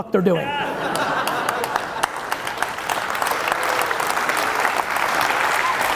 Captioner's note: audience laughing and applauding